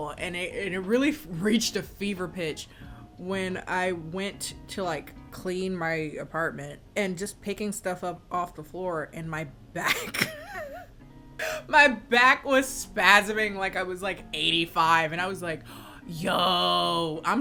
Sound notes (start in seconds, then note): 9.8 laughs